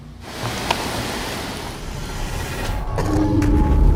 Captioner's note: soft eerie music; camera clatters; distant bird cawing